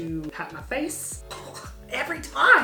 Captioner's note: coughs